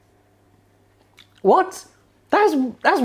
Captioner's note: chewing